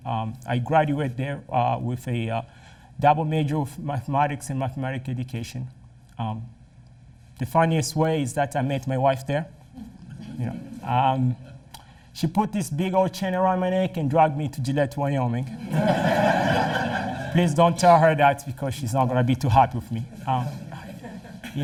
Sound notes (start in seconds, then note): 15.5 laughter